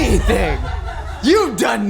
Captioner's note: laughing